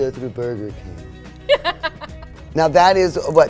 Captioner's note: laughing